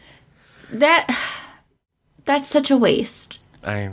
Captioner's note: sighs